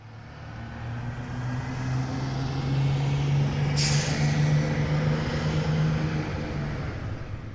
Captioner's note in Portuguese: som de motor de carro